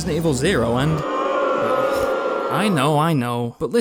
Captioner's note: crowd booing